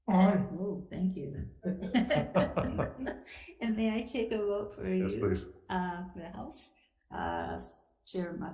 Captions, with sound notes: - Aye. - Whoa, thank you. (legislators chuckling) And may I take a vote for you? - Yes, please. - For the House. Chair Matayoshi?